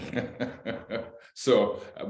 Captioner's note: laughter